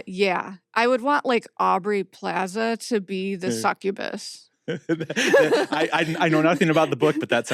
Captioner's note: laughs